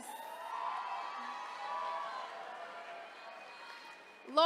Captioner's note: attendees cheering